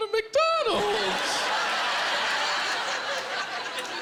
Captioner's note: laughter